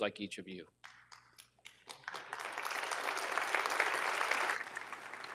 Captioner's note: audience applauding